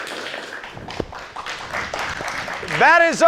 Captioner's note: audience applauding